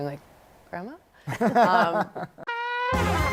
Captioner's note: laughs